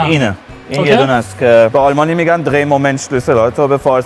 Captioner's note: speaks in German